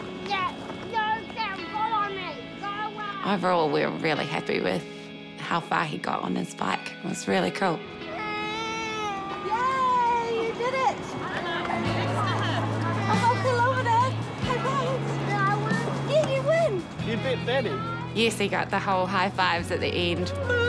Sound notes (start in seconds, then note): 8.3 whines